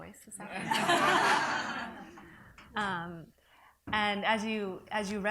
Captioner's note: audience laughs